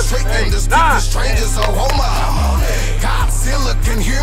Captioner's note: coach and players counting over rhythmic hip hop music; players clapping